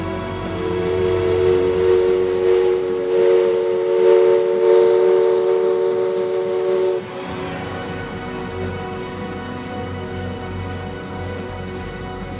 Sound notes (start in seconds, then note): 1.3 steam whistle blowing; 7.3 inspirational orchestral music continues